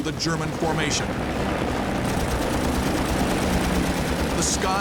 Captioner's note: guns firing